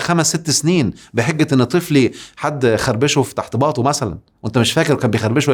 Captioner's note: sarcasm!